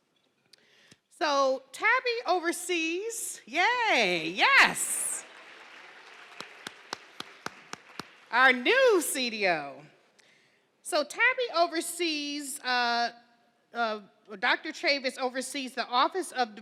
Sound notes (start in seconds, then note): 4.2 attendees cheering